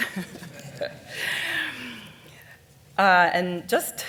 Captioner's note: audience laughing